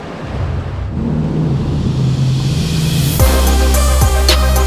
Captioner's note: motors revving; dramatic electronic music